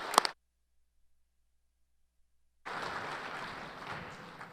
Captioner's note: applause